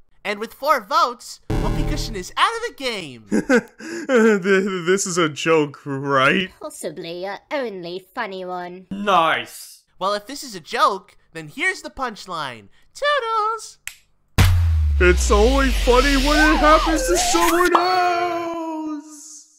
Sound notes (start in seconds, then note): 3.2 Whoopee Cushion laughs uncomfortably